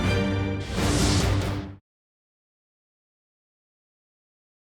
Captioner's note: momentous string music; air whooshing